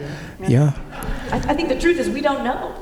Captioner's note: laughter